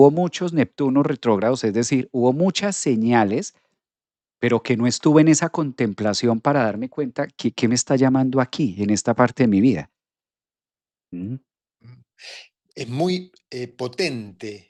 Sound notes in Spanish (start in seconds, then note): 12.2 carraspeo